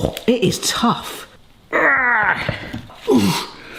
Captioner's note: grunts